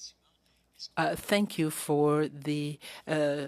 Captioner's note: speaking French